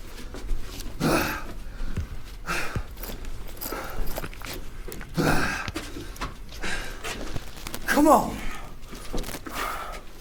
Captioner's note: panting; footsteps clomping